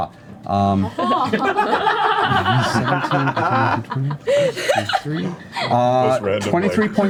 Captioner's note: all laugh